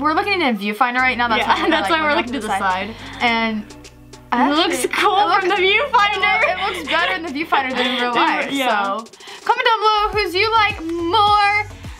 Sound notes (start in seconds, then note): 4.7 laughs